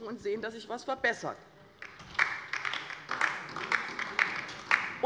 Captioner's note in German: Beifall bei der LINKEN